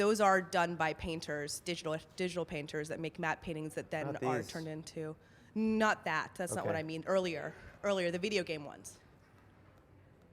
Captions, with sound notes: those are done by painters, digital painters, that make matte paintings, that then are turn into-- - Not these. - [Voiceover] Not that, that's not what I mean, earlier, the video game ones.